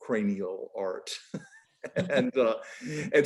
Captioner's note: laughing